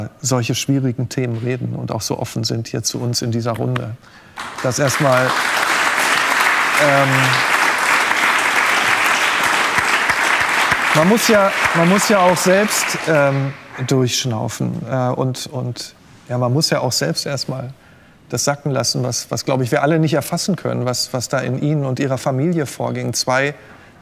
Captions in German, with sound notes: über solche schwierigen Themen reden und so offen sind hier zu uns in dieser Runde. (Applaus) Das erst mal. Ähm ... Man muss ja auch selbst ... ähm, durchschnaufen. Und ... und ... man muss ja auch selbst erst mal ... das sacken lassen, was wir, glaube ich, alle nicht erfassen können. Was da in Ihnen und Ihrer Familie vorging.